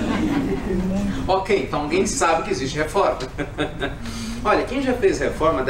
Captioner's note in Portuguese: Risos; Risos